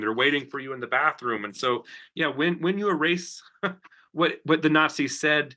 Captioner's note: chuckles